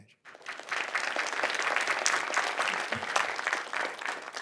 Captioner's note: audience applauding